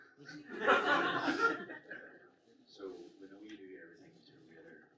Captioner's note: audience laughs